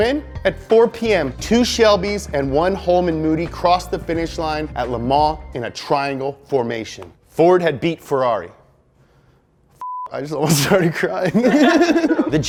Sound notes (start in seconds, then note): 9.8 beep; 11.2 laughs